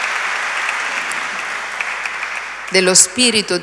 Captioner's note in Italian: Applauso